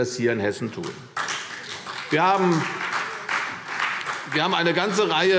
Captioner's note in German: Beifall CDU und vereinzelt BÜNDNIS 90/DIE GRÜNEN